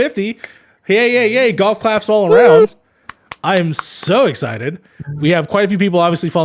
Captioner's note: the people golf clap